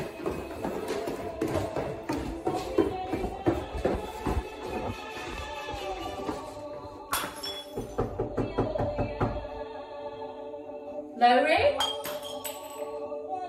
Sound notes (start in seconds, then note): 0.0 footsteps descending stairs; 7.1 glass smashes from behind the door; 7.7 knocking; 11.0 shouting; 11.8 glass smashes behind the door